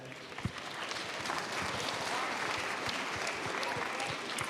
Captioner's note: applause